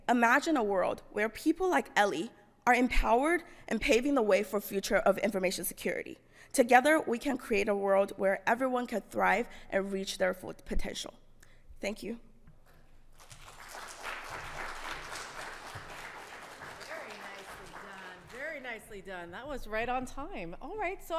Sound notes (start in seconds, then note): 13.1 audience clapping